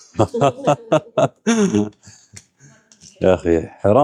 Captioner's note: laughing